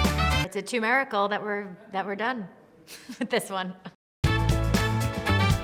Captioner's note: upbeat funk music; chuckling; upbeat funk music